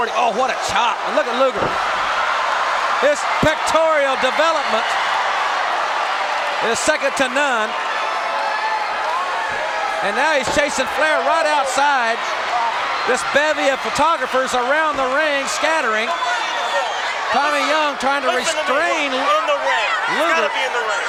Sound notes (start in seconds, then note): 2.3 crowd cheers